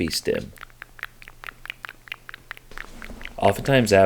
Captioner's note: lips smacking